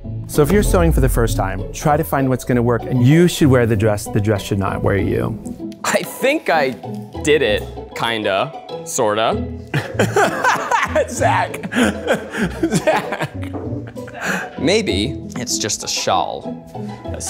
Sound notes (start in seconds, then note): 9.7 laughs